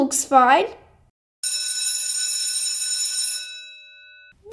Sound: bell rings

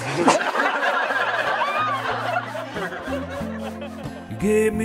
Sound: laughter

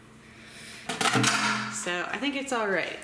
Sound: loud clanging

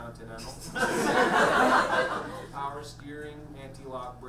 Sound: audience laughs

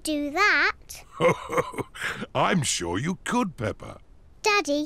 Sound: chuckles

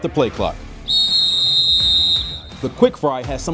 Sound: whistle blast

